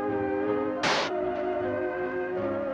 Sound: bullet piercing glass

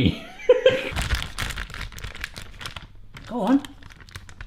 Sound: packet crinkling

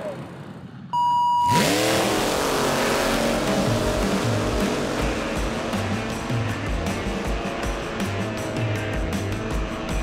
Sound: engine sound

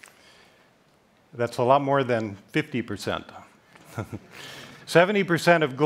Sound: laughs

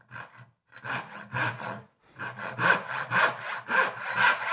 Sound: handsaw scrapes

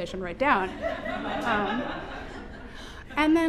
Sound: laughter

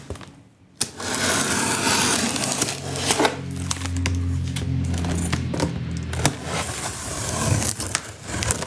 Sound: aircraft overhead

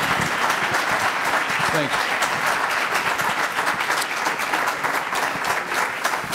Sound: applause

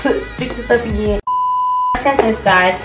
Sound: beeps

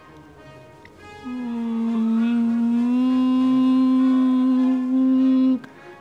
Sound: grunt

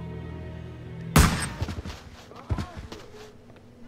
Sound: gun shot

